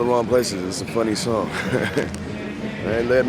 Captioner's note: chuckles